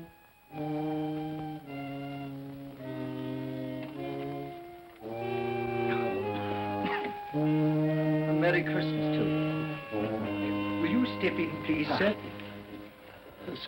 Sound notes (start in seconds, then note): 5.4 coughs